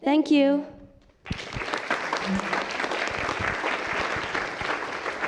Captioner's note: applause